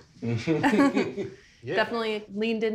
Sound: everyone laughing

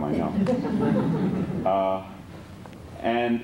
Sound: laughter

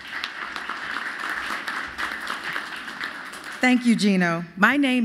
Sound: applause

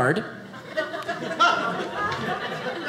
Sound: audience laughing

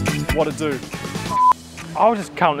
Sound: beep

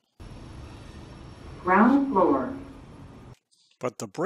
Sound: elevator

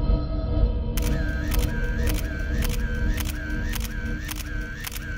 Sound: camera clicking

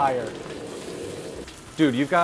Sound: meat searing in pan

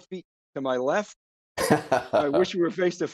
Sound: laughs

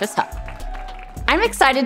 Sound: crowd cheering

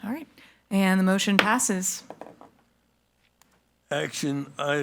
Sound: gavel thuds

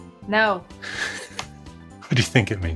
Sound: laughs

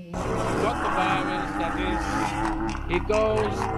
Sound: man grunts

